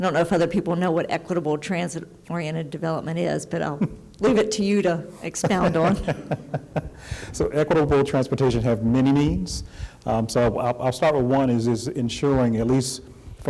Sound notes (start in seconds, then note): 5.3 laughter